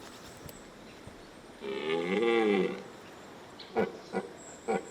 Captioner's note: stag roars